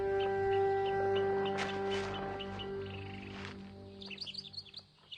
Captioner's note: birds chirping